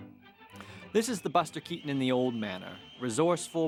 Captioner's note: wind whistling